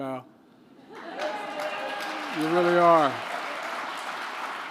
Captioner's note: applause